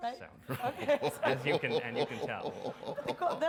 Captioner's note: Dr. West laughs